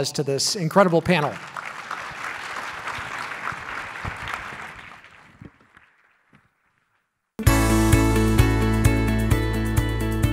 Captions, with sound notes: to this incredible panel. (clapping) (light music)